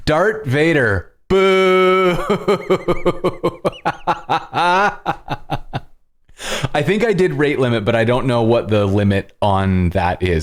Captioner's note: laughter